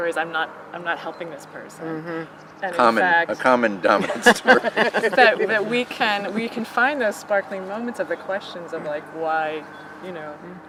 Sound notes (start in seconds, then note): 3.9 everyone laughing